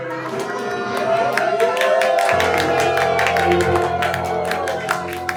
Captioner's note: people cheering and clapping